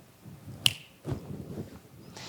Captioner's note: snaps fingers